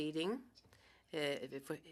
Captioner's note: speaking French